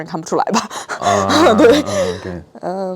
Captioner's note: laughs